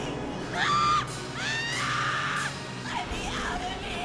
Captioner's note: Heather screaming